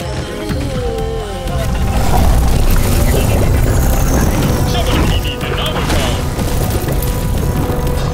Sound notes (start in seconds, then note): 1.4 loud rumbling and clattering